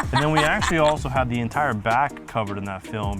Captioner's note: laughing